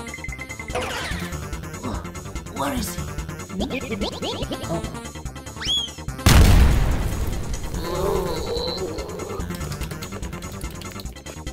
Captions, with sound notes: Where is he? [Bob-Omb noises] Oh. [explosion] [both groan]